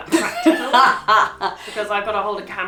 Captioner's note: laughs